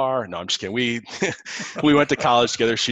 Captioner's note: chuckles